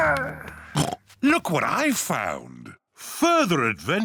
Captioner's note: oinks